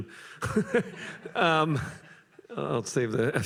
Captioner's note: laughter